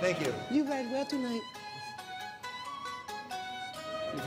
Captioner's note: bad japanese accent